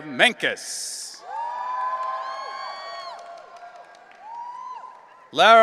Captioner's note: audience cheering